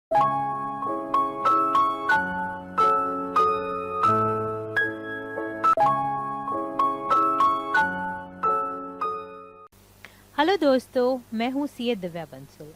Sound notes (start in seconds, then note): 3.3 Hindi